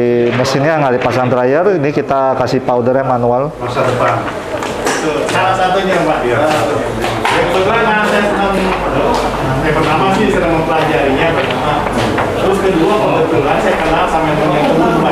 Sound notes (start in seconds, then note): 0.0 distant chattering; 3.1 distant chattering; 3.7 PET film sound